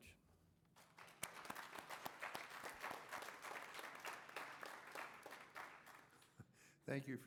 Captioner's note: applause